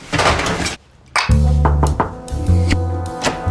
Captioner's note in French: toc toc toc